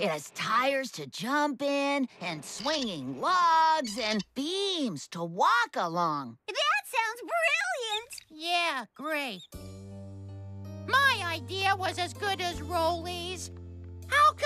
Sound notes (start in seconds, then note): 8.6 sarcastically